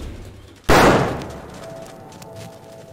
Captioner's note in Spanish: Disparo